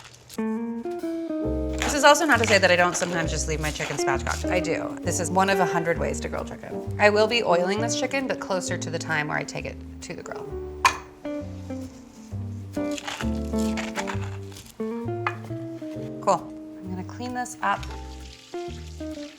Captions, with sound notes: This is also not to say that I don't sometimes just leave my chicken spatchcocked. I do, this is one of a hundred ways to grill chicken. I will be oiling this chicken but closer to the time where I take it to the grill. (pepper grinder crackles) Cool, I'm gonna clean this up.